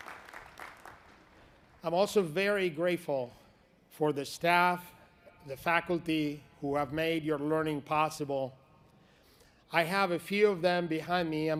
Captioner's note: applause